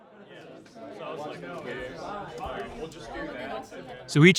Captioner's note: trainees chattering